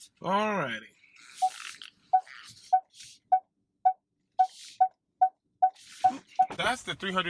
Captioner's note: beeps from backup sensor